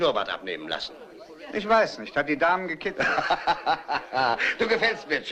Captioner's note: laughing